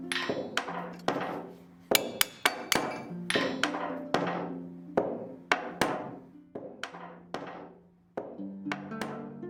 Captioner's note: hammer rhythm again